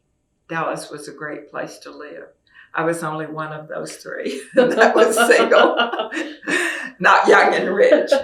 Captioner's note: laughter